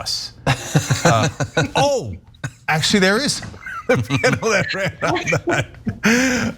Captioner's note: laugh